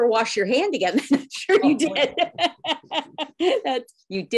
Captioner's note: laughs